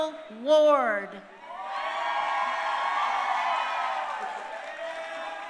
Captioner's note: crowd cheering